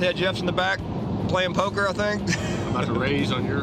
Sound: laughs

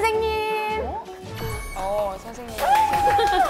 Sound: cheer

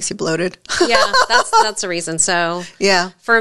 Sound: laughs

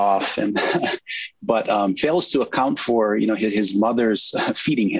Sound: chuckle

